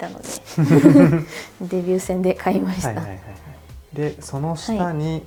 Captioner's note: laughs